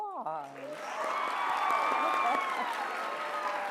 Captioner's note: applause